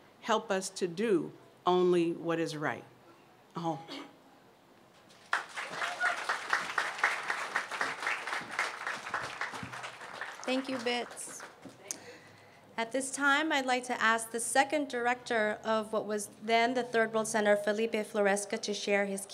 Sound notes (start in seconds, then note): 3.5 non-english speech; 5.1 applause